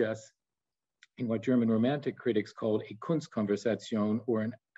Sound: speaks in German

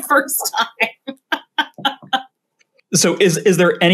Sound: laughs

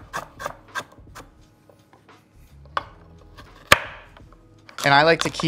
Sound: vegetable chopping

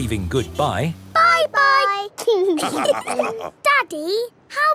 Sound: all laughing

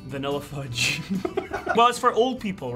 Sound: laughing

